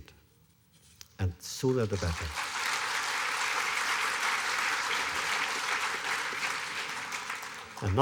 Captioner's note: applause